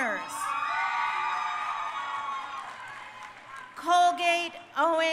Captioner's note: crowd cheering